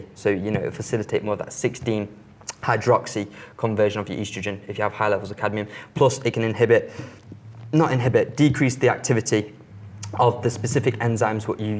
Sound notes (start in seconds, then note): none